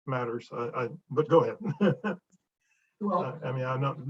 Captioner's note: chuckles